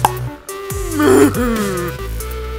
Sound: popping Sound; donkey Sound

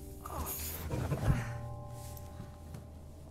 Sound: groaning

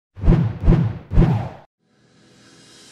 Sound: whooshing

